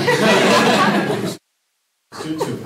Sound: laughter

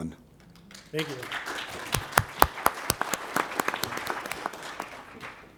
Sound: applause

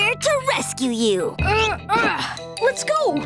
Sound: grunting

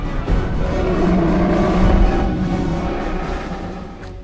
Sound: growl

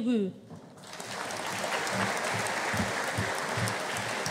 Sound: audience applauding

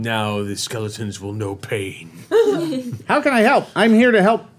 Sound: chuckling

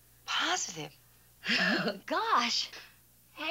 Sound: laughs

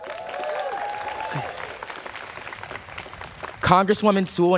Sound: students cheering

